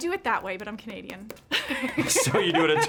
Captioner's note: laughing